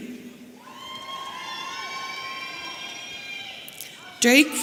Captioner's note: audience cheering